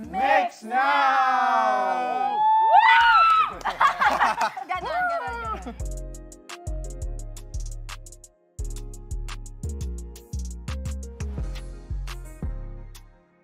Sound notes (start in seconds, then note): 0.6 cheering; 3.4 laughs; 3.5 laughter; 6.2 upbeat music playing